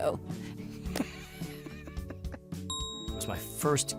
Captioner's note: laughs